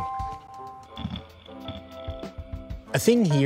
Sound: grinding

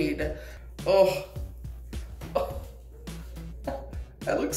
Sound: laughs

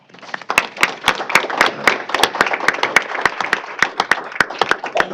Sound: applause

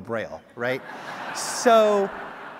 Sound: audience laughs

